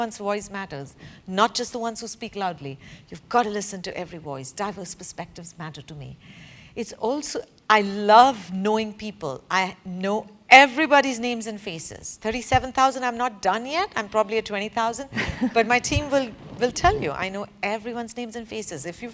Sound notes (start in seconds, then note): 15.1 laugh